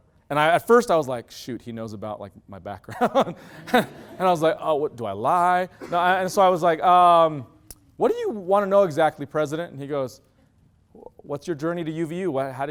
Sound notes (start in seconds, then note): 3.0 loud laughter; 3.0 laugh